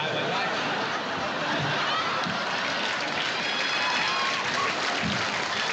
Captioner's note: laughter